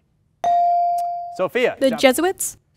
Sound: ding

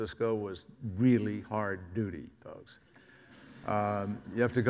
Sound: audience laughs

